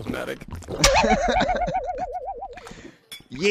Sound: chuckle

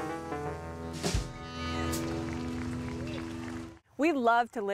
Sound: crowd cheering

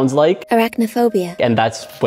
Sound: computer Voice

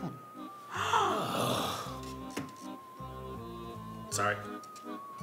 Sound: client gasping

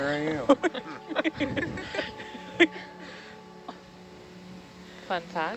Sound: speakers laughing

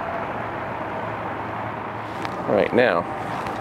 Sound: vehicles growling and whooshing

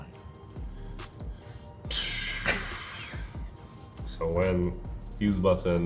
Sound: exhales

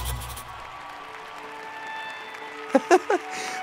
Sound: crowd cheering; laughs

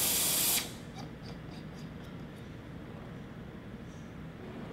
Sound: hissing noises finally stop

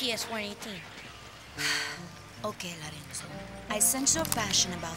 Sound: sighs

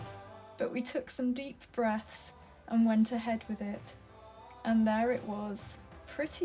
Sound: voiceover

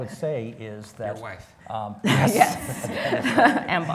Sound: laughs

